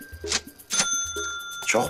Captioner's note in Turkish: Yazar kasa sesi